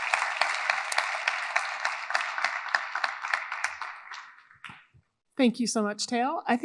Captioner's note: audience applauding continues